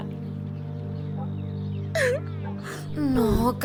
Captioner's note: Ann cries